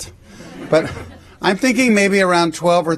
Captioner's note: laughter